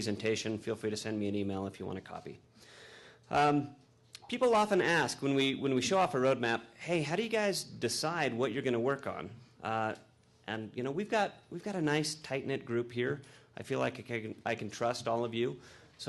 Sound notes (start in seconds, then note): none